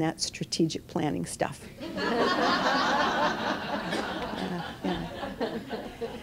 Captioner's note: laughter